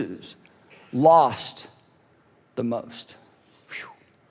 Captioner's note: whistles